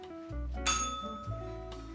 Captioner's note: bell rings